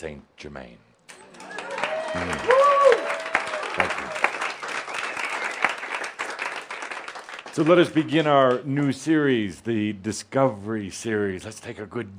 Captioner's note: audience applause